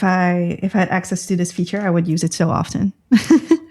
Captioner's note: laughter